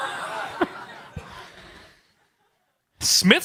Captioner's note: chuckle